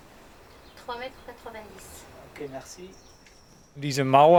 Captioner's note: speaking in foreign language; archeologist speaking in foreign language; speaking in foreign language